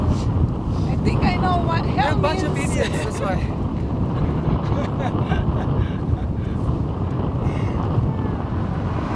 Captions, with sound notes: - I think I know what heaven means. - I think we are a bunch idiots, that's why. (laughing loudly)